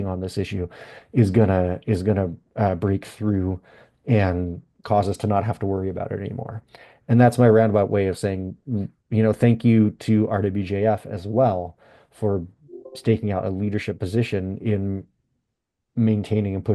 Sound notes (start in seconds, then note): 12.7 notification chimes